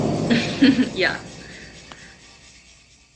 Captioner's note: giggles